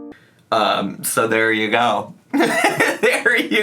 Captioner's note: laughs